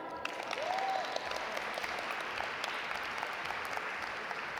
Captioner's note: audience applaud